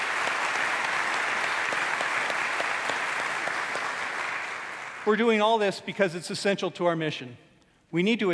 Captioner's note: applause